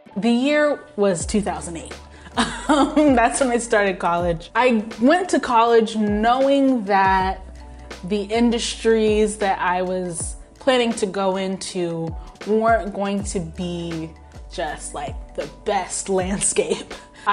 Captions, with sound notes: The year was 2008. (laughs) That's when I started college. I went to college knowing that the industries that I was planning to go into weren't going to be just, like, the best landscape.